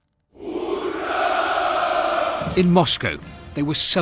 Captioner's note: chanting